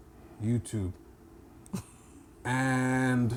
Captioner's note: laughing